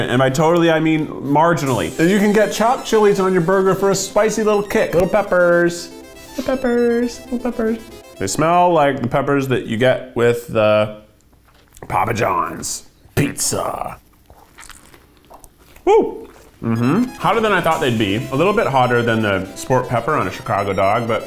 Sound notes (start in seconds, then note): 14.0 burger crunching